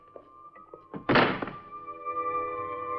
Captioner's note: door closes